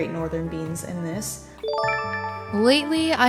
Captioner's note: chime